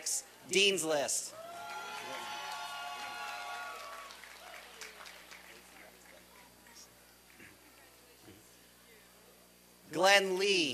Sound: applause and cheering

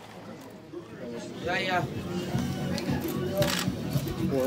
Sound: camera shutter clicks

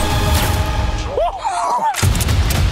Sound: laughing

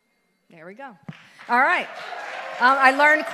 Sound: audience applauds

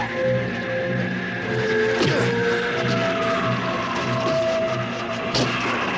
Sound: grunting; hitting

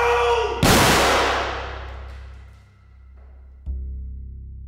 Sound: gun firing; ominous music

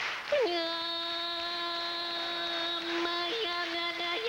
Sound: chanting

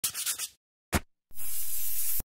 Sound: sawing; spraying

